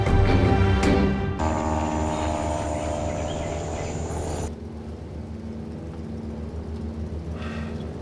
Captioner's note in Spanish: Ruido de la avioneta